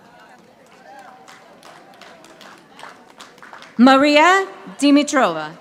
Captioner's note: audience applauding